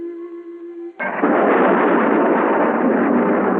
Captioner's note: spaceship rumbling